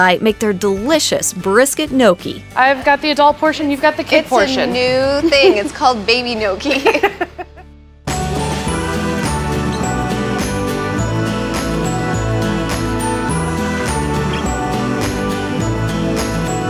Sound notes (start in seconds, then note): 6.6 laughs; 8.1 upbeat music